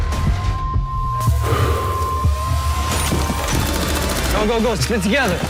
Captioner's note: sighs